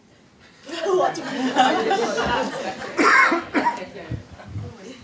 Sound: laughing and coughing

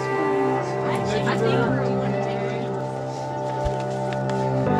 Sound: crowd chattering

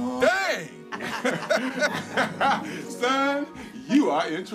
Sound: everyone laughs

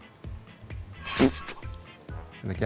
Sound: air blowing sound

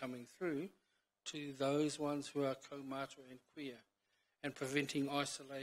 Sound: foreign language

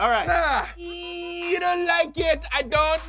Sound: high pitched squeal

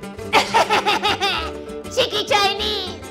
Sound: laughter

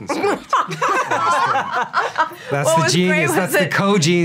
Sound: laughing

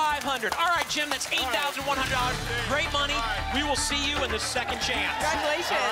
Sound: applause and cheering

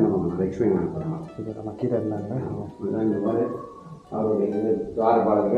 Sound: speaker noise

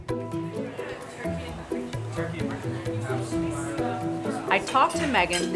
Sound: small crowd chattering

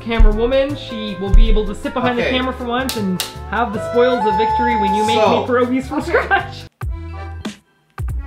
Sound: laugh

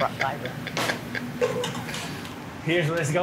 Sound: chuckling

